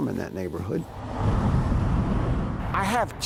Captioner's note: traffic whooshing